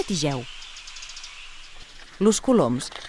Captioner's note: singing of sparrows